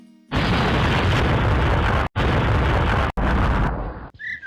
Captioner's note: abrupt explosion